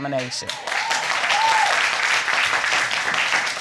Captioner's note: audience cheering